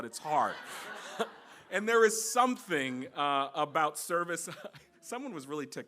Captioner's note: laughter